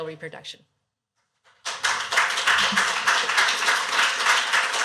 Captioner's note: applause